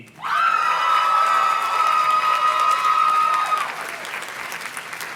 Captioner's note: audience cheers and claps